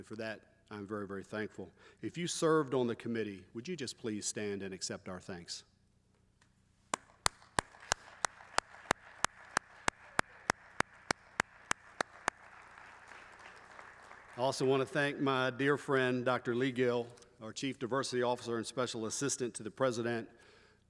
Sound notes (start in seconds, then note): 11.7 applause